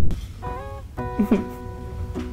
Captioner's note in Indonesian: Tertawa